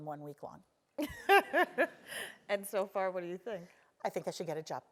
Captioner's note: laugh